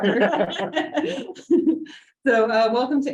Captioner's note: group laughing